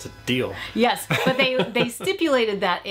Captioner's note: chuckles